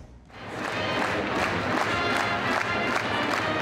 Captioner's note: crowd claps